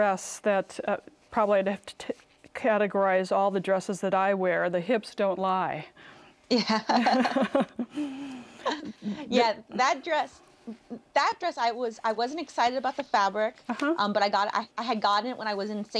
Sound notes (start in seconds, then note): 6.6 both laugh